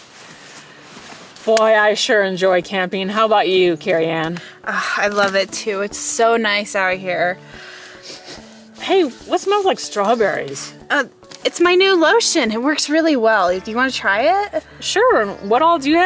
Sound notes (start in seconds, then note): 7.5 sniff sniff